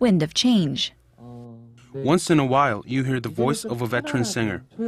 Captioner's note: korean